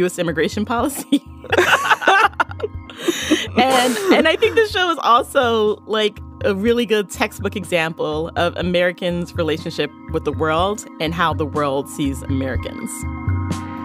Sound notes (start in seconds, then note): 1.4 both laugh